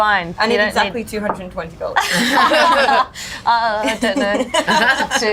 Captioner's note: all laugh